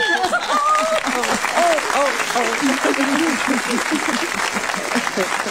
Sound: audience cheering; audience laughing

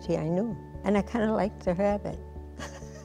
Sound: giggles

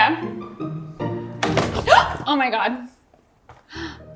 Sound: gasps

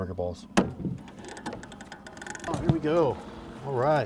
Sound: thunk

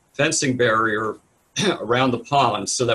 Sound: coughs

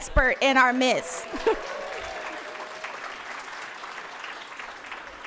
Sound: audience applauding

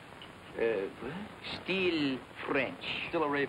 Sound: french accent

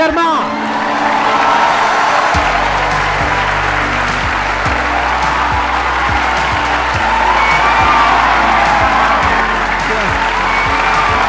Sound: cheering

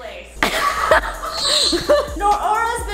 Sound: laughing

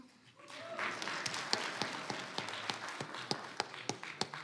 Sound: audience applauds

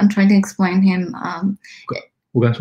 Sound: speaks mandarin

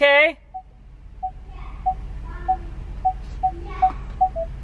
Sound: car beeps

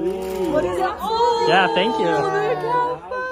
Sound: group exclaims

